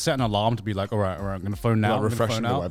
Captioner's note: laughs